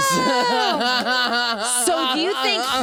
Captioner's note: Jinkx laughing